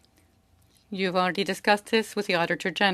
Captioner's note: speaking French